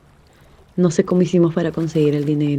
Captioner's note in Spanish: sonidos de agua, imágenes flor con abejas y voz off femenina #2